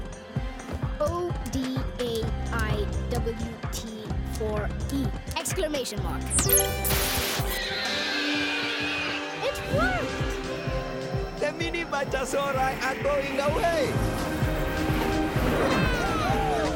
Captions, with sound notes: - O-D-A-I-W-T-4-E. (beeping) (screeching) It worked! - The Mini Bitosauri are going away! (buzzing) (all cheering)